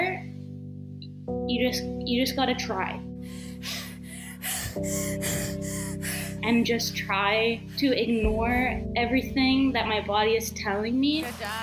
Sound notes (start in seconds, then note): 3.2 breathes heavily